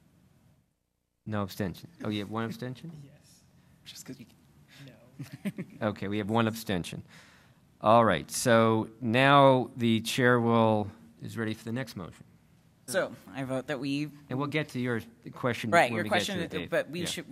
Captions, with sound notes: No abstentions. Oh yeah, one abstention? >> Yes. Just 'cause we-- no. [Laughter] >> Okay, we have one abstention. All right. So, now, the chair will-- is ready for the next motion. >> So I vote that we-- >> And we'll to your-- the question that-- >> Right, your question that about leadership,